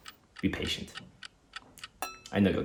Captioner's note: clock ticking